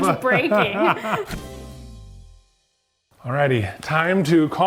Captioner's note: laughing